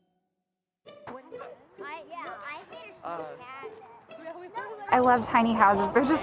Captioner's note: background chatter